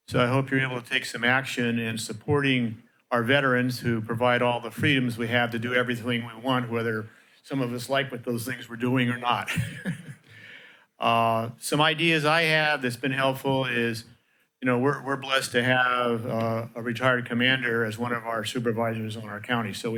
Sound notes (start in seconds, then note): 9.4 laughter